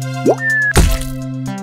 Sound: upbeat electronic music; splatter; bounce

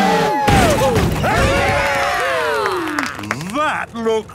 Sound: crowd; applause

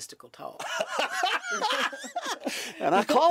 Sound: laughter

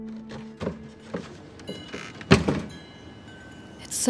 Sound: wind chime clinking

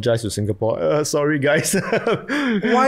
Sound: laughs

